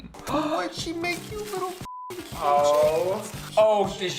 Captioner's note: beep